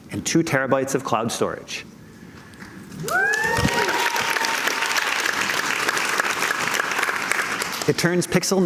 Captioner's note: cheers and Applause